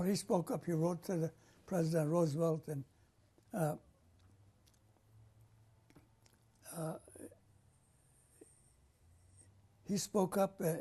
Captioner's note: pauses for 7 seconds